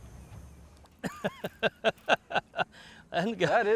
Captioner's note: laughing